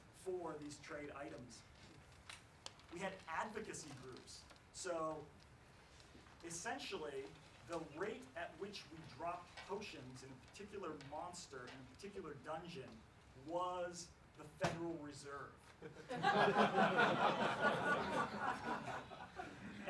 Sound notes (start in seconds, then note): 16.0 laughs